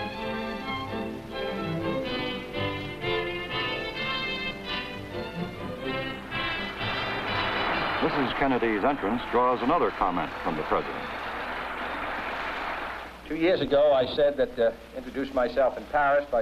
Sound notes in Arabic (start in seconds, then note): 6.4 موسيقى الفرقة الموسيقية; 6.9 يصفق الجمهور; 7.4 موسيقى الفرقة الموسيقية